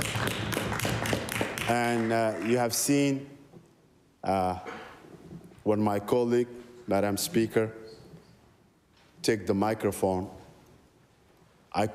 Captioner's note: applause